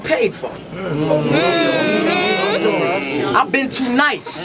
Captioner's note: crowd Reaction